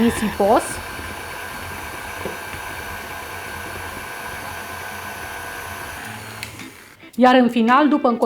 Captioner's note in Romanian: sunetul mixerului